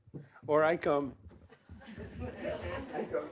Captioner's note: laughter